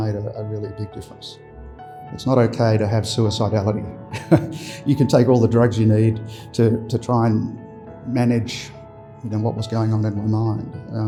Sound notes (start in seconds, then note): 4.1 laughs